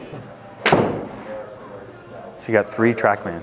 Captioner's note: thumping sound